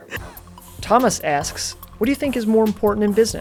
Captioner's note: voiceover